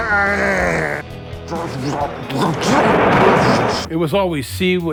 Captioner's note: James groans